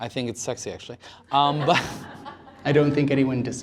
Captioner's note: laughter